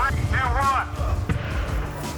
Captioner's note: laughs; chatter